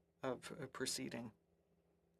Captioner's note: speaking French